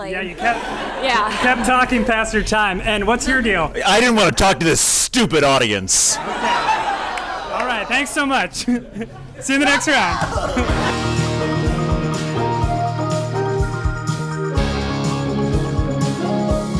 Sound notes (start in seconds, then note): 5.9 crowd reacts; 10.3 theme music plays